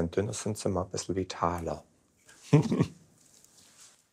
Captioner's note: giggle